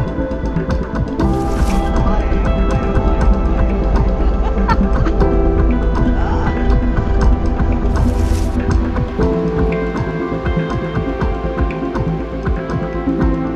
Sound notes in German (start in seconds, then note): 1.8 Staunen, Lachen